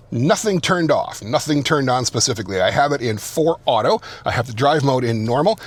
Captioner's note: none